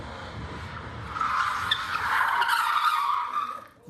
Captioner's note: tires screeching